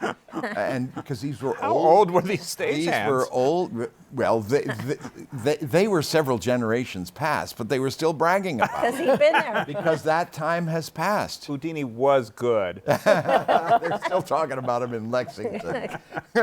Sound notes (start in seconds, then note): 12.8 laughter; 16.2 laughs